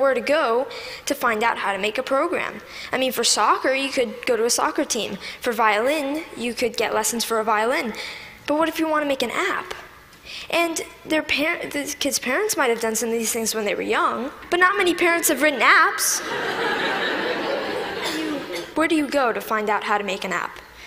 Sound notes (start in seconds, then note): 16.1 Laughter; 16.1 笑聲